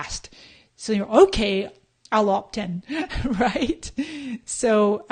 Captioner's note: laughs